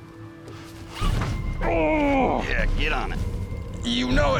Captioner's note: grunts